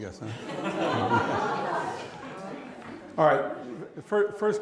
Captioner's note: laughter